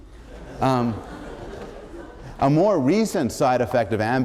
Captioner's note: laughter